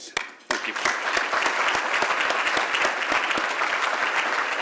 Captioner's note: applause